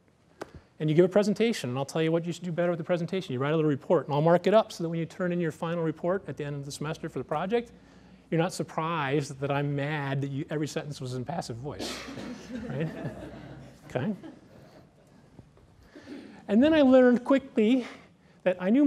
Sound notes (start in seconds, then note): 12.1 laughter